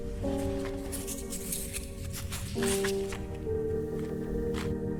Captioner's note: matches clattering